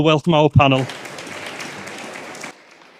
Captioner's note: applause